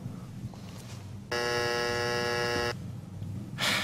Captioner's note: buzzer